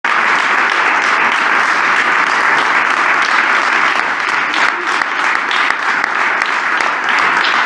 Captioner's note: applause